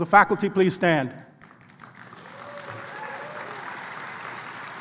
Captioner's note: applause